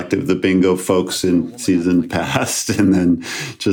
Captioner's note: chuckles